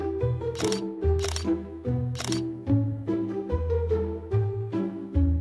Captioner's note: camera clicking